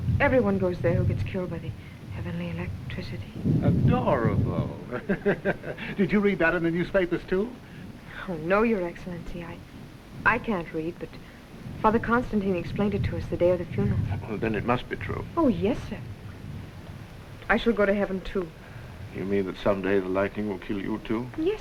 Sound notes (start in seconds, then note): 4.6 laughs